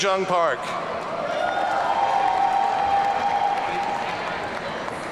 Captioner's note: audience cheering